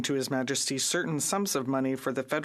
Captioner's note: speaking French